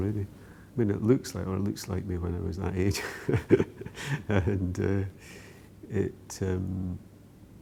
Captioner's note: laughs